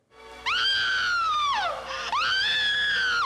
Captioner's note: screaming